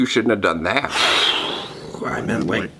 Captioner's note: exhales loudly